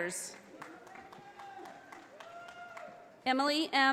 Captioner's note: audience applauding